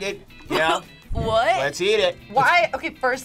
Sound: laughs

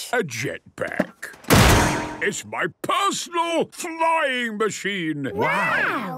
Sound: clangs

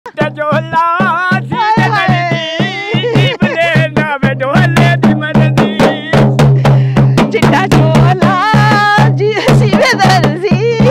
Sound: giggling

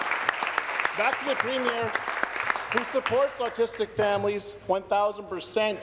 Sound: applause

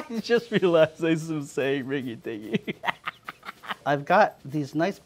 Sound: laughs

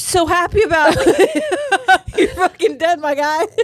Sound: both laughing

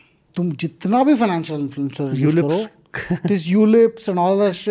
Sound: speaks in Hindi

